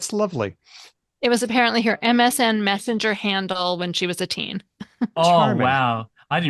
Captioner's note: laughs